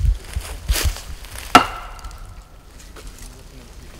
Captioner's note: bat whacking